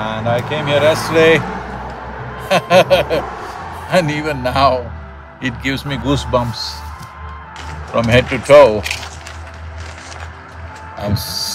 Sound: laughs

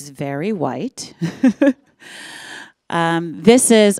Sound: chuckles

